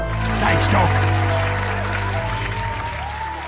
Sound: audience cheers

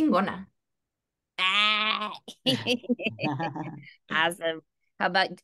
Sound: laughter

